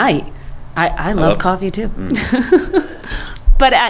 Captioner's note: laughing